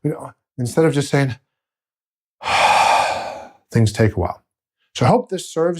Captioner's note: exhales